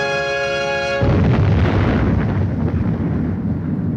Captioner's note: exploding